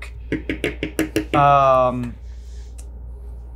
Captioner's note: pen tapping